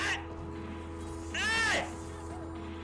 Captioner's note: screams